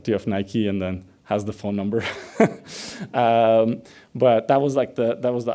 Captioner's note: laughs